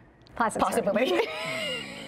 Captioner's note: laughs